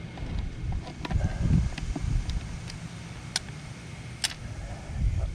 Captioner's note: wind blowing; exhaling; metal clanging